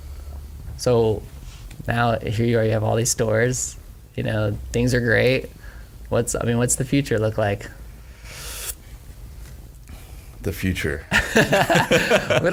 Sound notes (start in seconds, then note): 7.9 inhales sharply; 11.1 all laugh